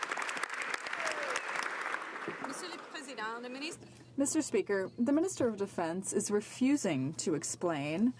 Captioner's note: some Applause